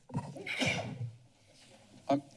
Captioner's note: sneeze